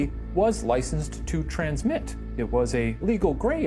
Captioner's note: none